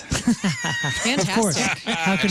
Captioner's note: laughing